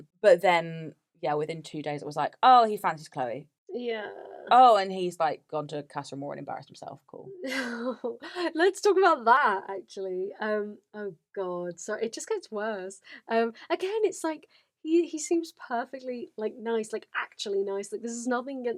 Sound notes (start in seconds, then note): 8.4 laughs